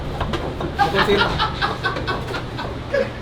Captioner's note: laughs